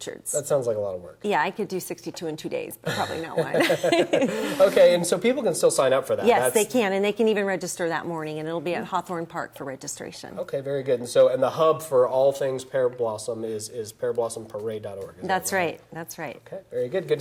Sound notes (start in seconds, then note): 2.8 laughs